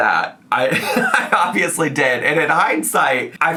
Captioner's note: chuckles